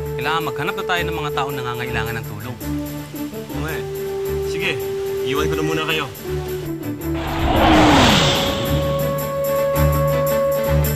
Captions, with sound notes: You need to look for people who may need your help. Yes, I know. Alright. I will leave you guys here first. [whooshes]